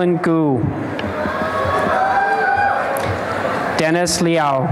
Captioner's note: applause and cheering